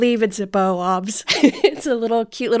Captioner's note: laughing